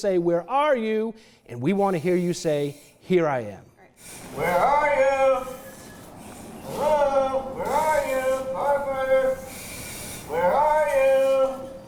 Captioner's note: firefighter in mask breathing air speaking